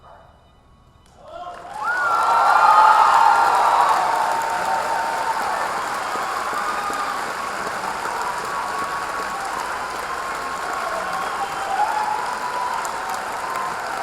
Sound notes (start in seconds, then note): 2.9 audience cheering